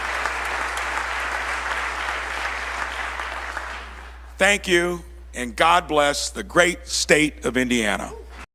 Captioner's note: applause